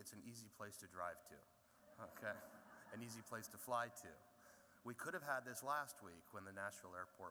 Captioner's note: laughter